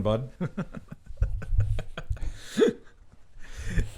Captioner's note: laughing